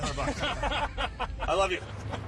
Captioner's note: laughing